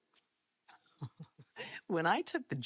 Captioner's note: Enuka chuckles